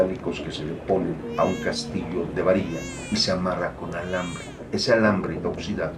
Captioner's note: baby crying